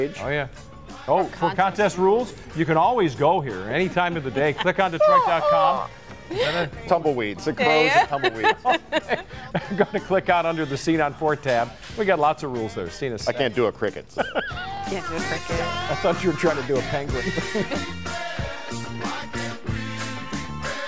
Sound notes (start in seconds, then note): 17.2 laughter